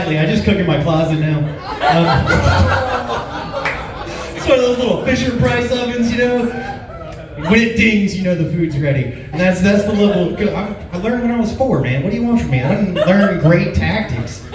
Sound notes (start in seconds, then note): 1.5 laughs